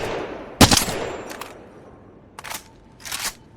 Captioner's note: sound of shooting